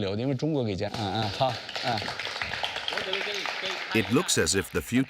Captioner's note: all applauding